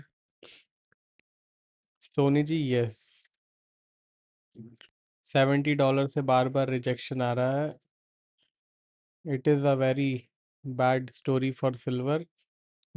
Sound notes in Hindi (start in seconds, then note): 0.8 नाक से की जाने वाली आवाज़